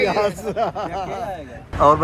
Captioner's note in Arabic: يضحك